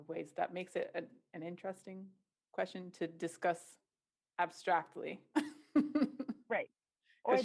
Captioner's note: laughter